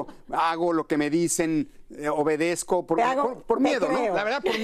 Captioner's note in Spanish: risas